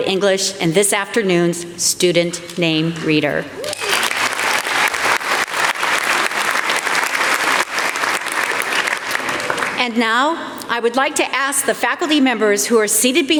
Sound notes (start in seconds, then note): 6.4 applause